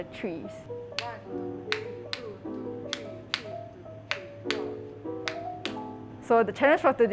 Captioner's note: claps in demonstration